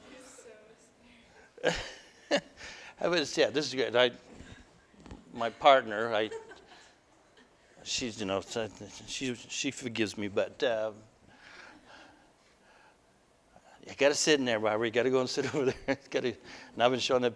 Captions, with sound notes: [Laughter] I was-- Yeah this is great. My partner she's, you know she forgives me but... "You got to sit in there Robert! You got to go and sit over there!" And I've been showing